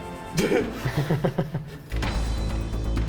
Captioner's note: laughter